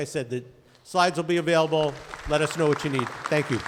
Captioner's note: audience applauding